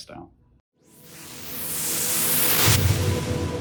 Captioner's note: whooshing sound